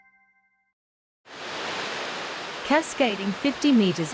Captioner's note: water falls